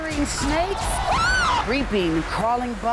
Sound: screaming

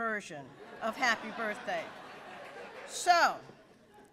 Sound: audience laughs

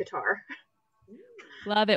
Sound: laughs

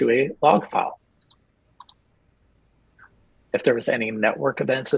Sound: mouse clicks

